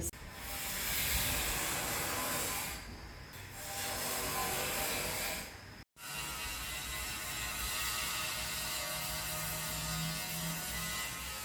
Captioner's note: loud buzzing